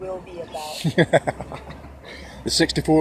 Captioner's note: more nervous laughter